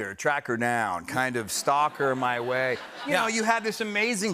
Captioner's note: laughter